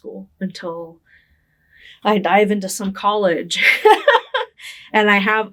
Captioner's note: laughing